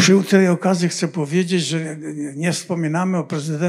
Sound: foreign language

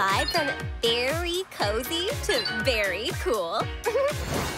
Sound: giggling

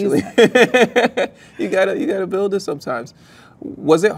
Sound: laughs

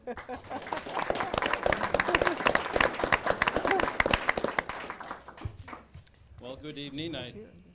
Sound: applause

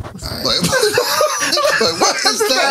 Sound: laughter

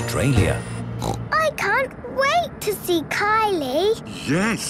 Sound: snorting

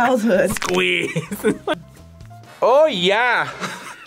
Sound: laughs

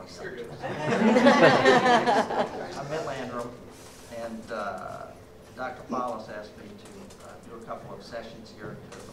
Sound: laughter

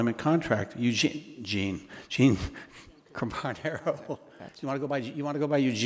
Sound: laughs

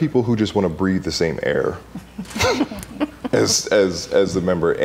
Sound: laughing

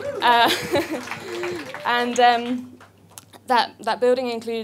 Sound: audience applause

